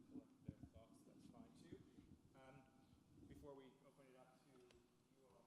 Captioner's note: speaking off microphone